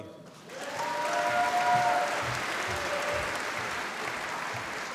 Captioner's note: applause